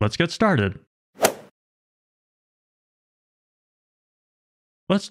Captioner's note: golf ball hit sound effect